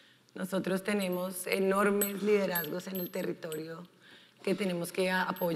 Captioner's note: speaking in foreign language